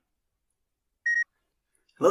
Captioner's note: beep